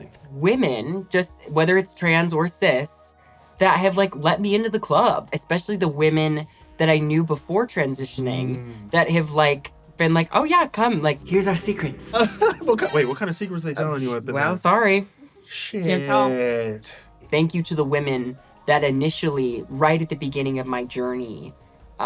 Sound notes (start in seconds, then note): 11.3 laughs